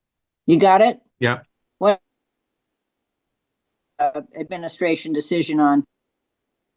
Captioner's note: audio break